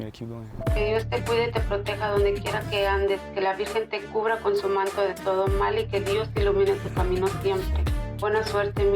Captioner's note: mother speaking Spanish